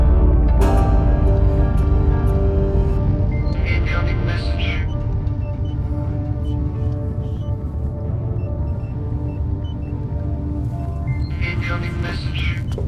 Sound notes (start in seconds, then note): 1.9 machines beeping; 6.9 machines beeping